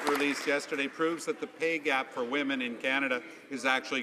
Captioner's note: some Applause